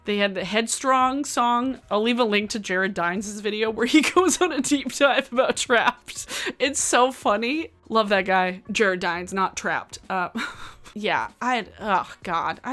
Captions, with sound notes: They had the "Headstrong" song. I'll leave a link to Jared Dines' video, where he goes (laughs) on a deep dive about Trapt. It's so funny. Love that guy, Jared Dines, not Trapt (chuckles). Yeah, I had, oh God,